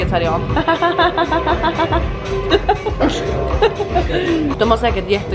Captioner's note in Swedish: skrattar